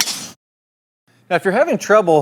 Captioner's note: golf club swinging